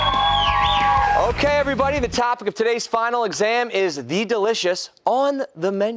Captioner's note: cheers and applause